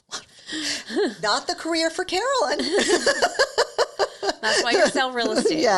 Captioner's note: laughs